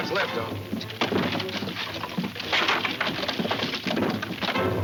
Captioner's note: wood rattling